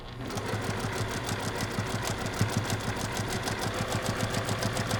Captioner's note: sewing machine churning